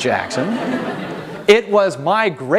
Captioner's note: audience laughing